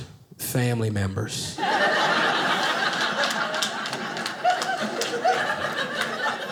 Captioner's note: audience laughing